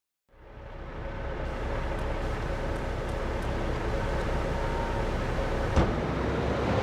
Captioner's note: car engine roaring